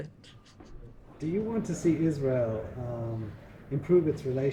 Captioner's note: voiceover